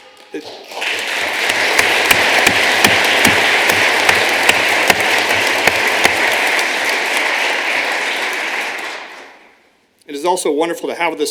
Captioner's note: applause